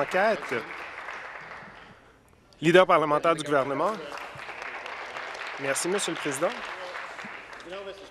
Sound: applause

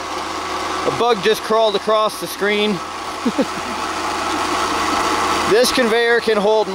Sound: laughing

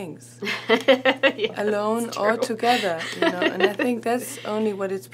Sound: laughs

